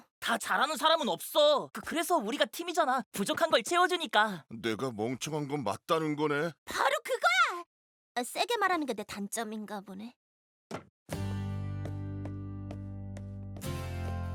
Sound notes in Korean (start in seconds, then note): none